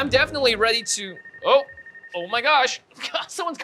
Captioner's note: phone ringing